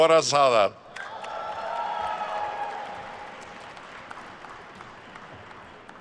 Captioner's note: attendees cheering and applauding